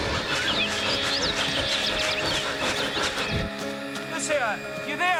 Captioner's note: whooshing; birds tweet; pants